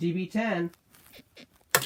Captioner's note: bed squeaks